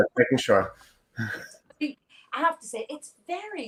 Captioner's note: laughs